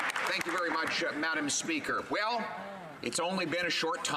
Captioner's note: some Applause